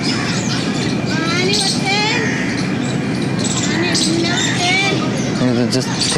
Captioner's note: child speaking foreign language